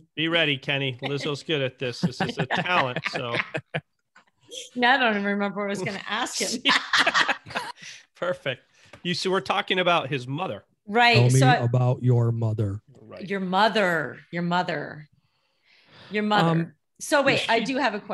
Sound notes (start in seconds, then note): 1.9 laughing; 6.3 laughing